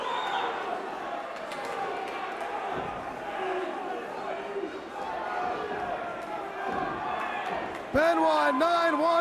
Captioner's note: crowd cheering